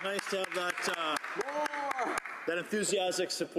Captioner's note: cheering; cheering and Applause